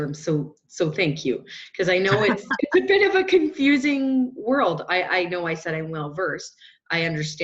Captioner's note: chuckle